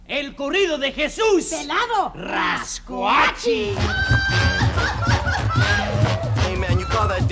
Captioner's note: foreign Language Spoken